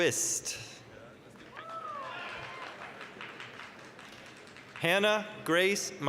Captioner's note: applause, cheering